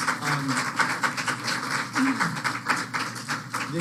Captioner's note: applause